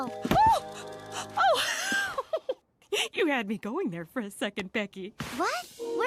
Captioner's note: Mrs. Botsford chuckles